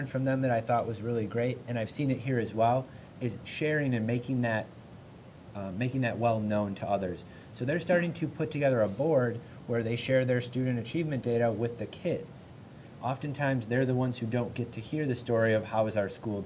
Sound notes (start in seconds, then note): none